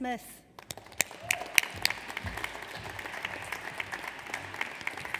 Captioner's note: audience applauds